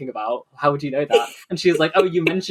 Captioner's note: laughs